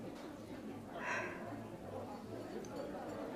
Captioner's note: sigh